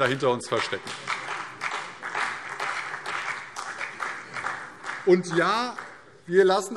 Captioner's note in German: Beifall CDU und BÜNDNIS 90/DIE GRÜNEN